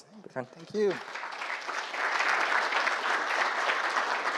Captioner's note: applause